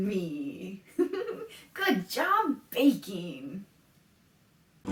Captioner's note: laughs